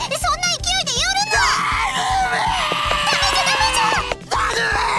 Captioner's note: blubbering